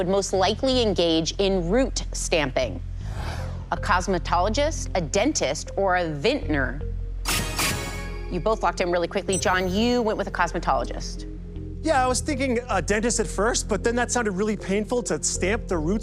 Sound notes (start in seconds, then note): 7.5 chime, chime